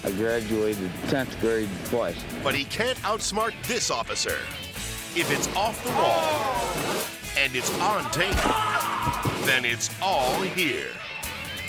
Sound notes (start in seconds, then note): 6.5 people gasping; 8.6 man groaning